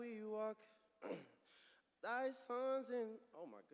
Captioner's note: clears throat